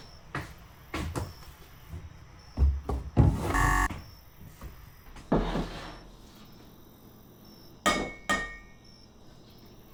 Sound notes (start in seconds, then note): 0.0 loud footsteps; 3.4 error buzzer; 7.8 clinking